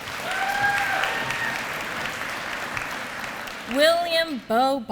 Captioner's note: applause